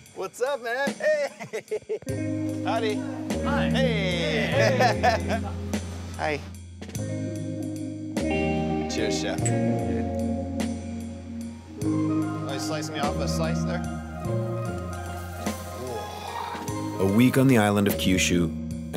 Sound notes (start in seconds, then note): 4.1 laughs; 7.4 relaxing music continues